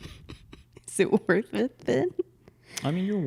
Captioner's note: laughs